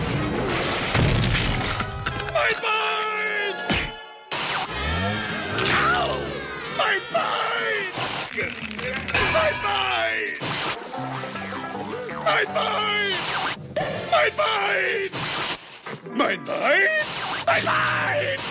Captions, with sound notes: Mein Bein! (Screaming) Mein Bein! Mein Bein! Mein Bein! Mein Bein! Mein Bein!? Mein Bein!